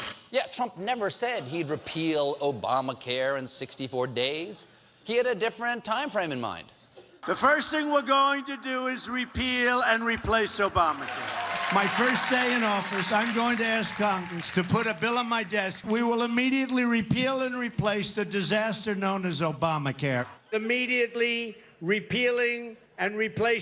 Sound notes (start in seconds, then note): 12.0 cheers and applause